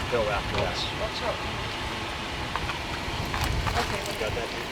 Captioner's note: team chattering